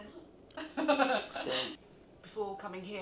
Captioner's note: laughing